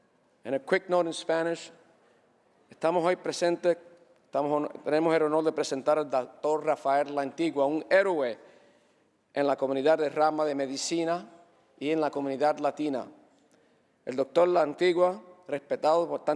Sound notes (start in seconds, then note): 5.1 speaking spanish